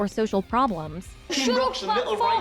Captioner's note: shouting